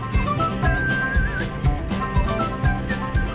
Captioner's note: whistling